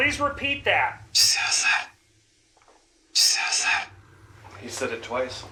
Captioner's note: box whispers